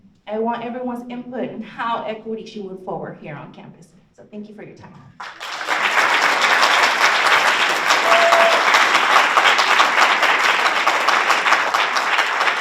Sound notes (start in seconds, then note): 5.2 audience applauds